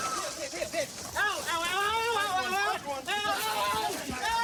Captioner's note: screaming